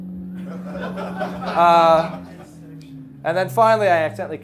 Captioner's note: class laughing